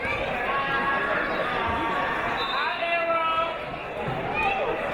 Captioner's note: chattering from crowd